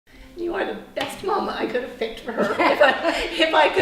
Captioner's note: laughing